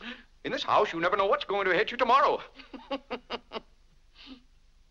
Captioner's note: laughs